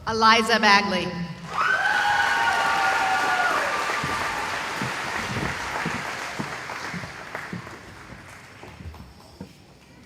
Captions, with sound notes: Eliza Bagley [cheering] [applause]